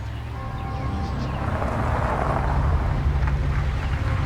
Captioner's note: gravel crunching